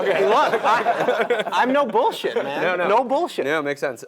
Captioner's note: laugh